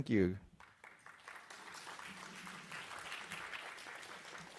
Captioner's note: audience applauding